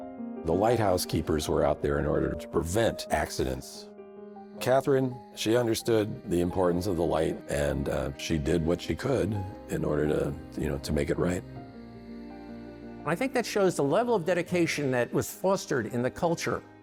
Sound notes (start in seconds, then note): none